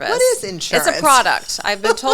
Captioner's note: laughs